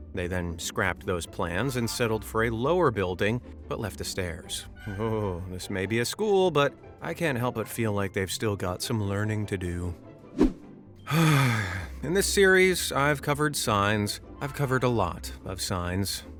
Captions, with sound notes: They then scrapped those plans and settled for a lower building… but left the stairs. Ohhh, this may be a school, but I can’t help but feel like they’ve still got some learning to do. [sighs] In this series I’ve covered signs… I’ve covered a lot of signs,